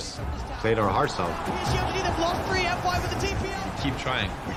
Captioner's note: crowd cheering